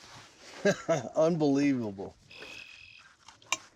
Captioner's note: chuckles